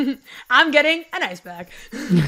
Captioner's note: chuckles